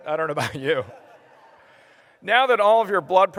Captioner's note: laughter